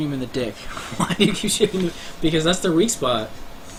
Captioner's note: chuckling